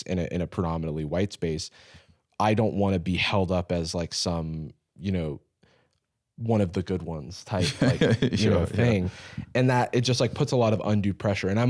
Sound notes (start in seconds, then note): 7.6 laughs